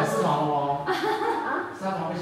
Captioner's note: have a hearty laugh